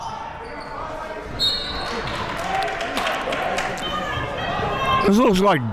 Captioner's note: whistle blows; audience cheering